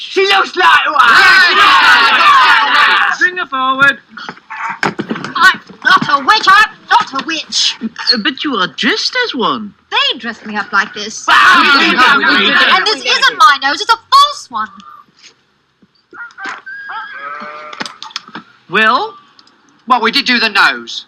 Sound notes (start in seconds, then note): 0.1 crowd; 11.1 crowd